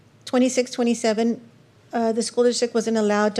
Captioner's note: none